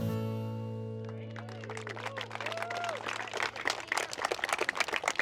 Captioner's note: audience applauds